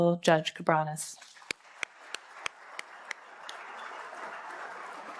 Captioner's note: applause